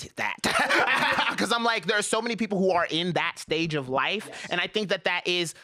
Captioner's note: laughs